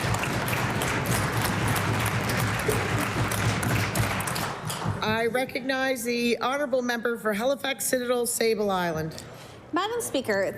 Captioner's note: applause